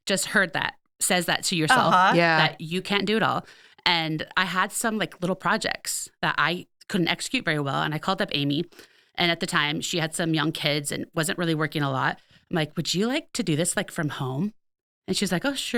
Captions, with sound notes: I can't do everything. (laughing) Which I hope everybody that just heard that says that to yourself, that you can't do it all. And I had some like little projects that I couldn't execute very well. And I called up Amy and at the time she had some young kids and wasn't really working a lot.